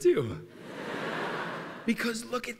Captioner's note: laughter